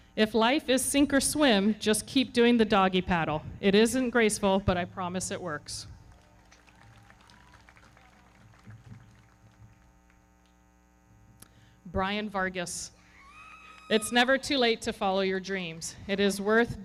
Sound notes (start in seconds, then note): 6.0 everybody clapping; 13.1 audience cheering